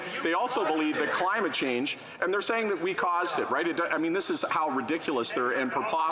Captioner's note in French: voix de l'interprète